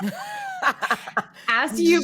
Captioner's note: laughing